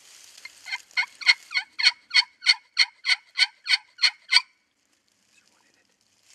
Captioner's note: turkey calles